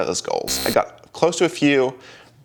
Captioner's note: beep